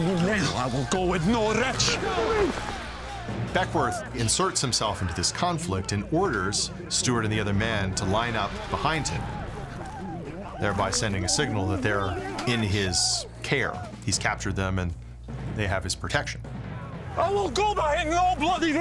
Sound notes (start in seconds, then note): 2.4 stewart with scottish accent